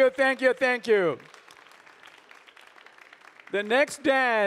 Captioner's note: audience applauding